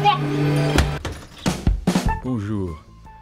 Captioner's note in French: Voix à la télé